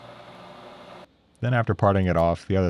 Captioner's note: machine whirring